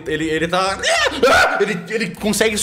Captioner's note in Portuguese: muitos gritos